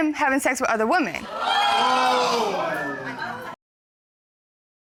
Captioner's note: audience gasps